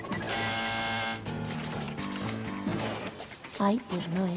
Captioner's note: buzz